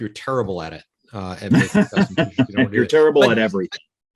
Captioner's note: laughing loudly